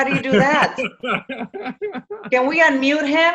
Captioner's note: laughs